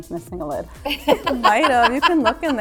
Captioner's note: person laughs